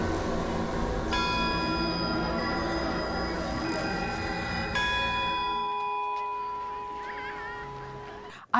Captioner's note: bell rings